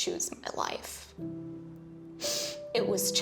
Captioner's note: sniffles